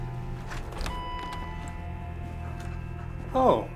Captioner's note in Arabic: رنين جرس الباب